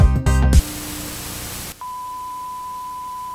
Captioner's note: static